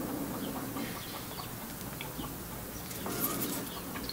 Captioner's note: chicken cackling